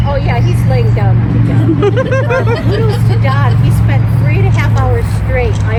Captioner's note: laughter